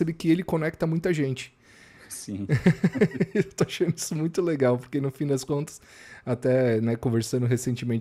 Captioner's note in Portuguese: risadas